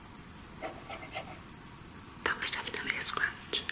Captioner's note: scraping